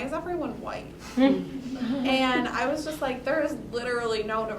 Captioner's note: laugh